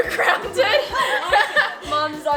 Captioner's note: laughing